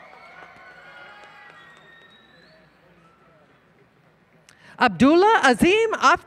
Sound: applause, Cheering

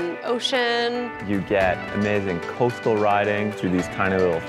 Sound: male Voice

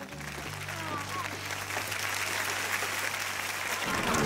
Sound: clapping track

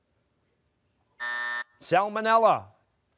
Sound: buzzer

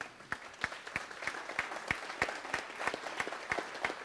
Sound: audience applauds

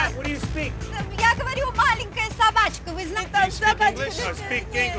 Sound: speaking in Russian

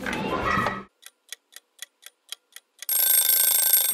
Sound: clock ticking; alarm going off

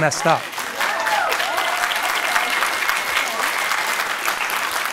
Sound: audience cheers and applauds

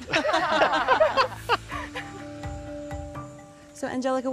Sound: laughter

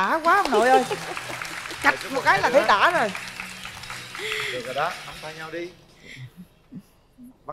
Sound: applause

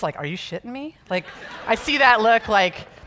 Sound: audience laughing

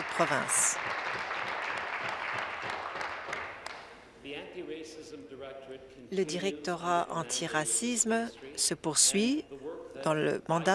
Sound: applause

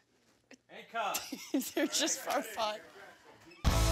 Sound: laughs

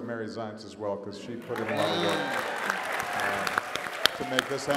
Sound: applause

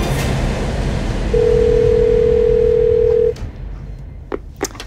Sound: dramatic music fades; phone ringing

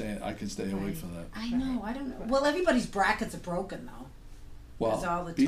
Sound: voiceover

